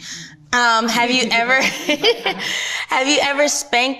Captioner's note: laughs